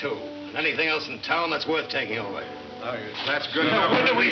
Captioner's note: men chattering